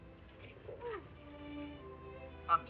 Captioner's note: Ettie gasping